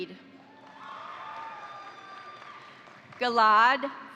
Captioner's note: crowd cheering; crowd applauding